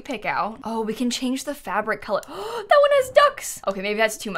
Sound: gasps

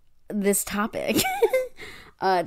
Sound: laughs

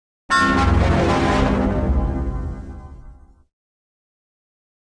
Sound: 16-Eyed Devil Windows XP Shutdown Sound

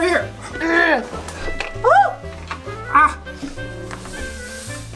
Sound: assistant grunting

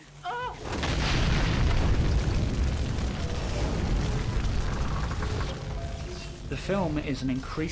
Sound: intense burning

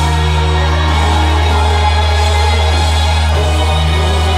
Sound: audience cheers

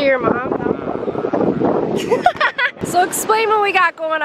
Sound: laughing

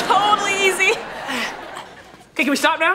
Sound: moaning

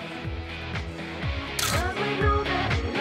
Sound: camera clicks

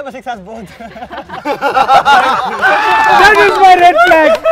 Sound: laughter

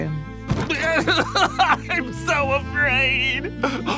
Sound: crying

